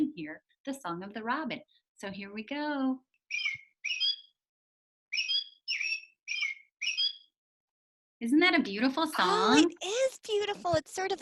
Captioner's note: tweet tweet tweet tweet